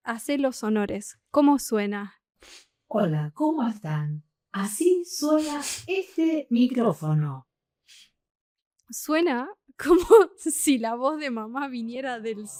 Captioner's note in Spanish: resoplido